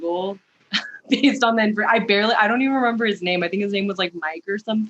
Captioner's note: laughs